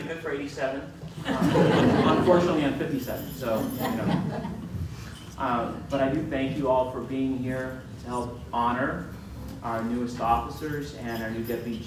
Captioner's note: crowd laughs